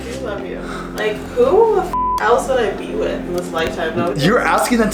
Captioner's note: beep